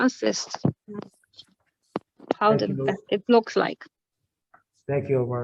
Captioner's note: distorted sound